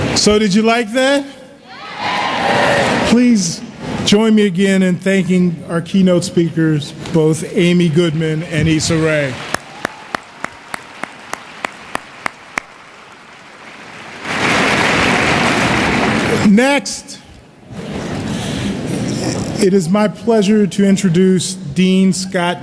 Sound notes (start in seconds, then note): 1.7 cheering; 9.0 applause